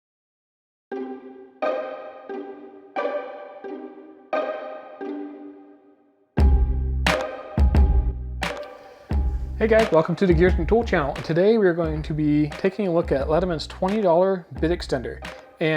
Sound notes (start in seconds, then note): 0.9 upbeat music; 9.7 voiceover